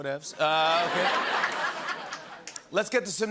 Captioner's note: laughter and applause